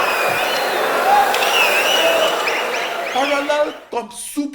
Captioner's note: wild applause and cheering for 22 seconds